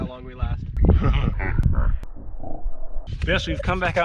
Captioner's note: un-nerving slo-mo laugh